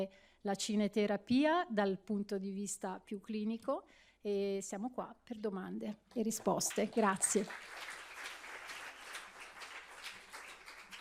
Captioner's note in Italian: Applauso